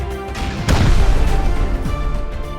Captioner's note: boom